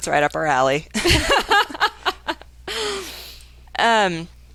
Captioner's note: both laughing